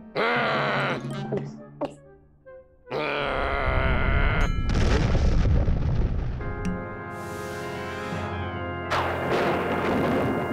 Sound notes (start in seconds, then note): 0.0 growling; 1.4 gulps; 2.9 growls; 4.6 deep rumble and explosion; 9.0 thunder rumbles